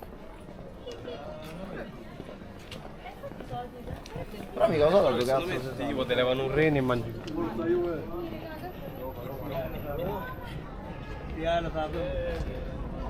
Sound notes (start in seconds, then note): 3.1 speaking in foreign language